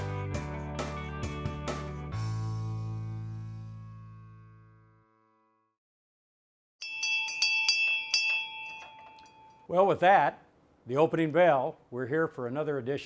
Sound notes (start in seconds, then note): 6.8 bell ringing